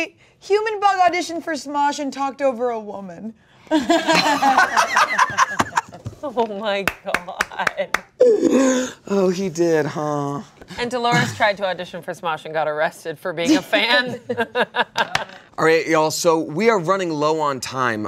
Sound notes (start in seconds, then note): 3.8 everyone laughs; 14.7 laughs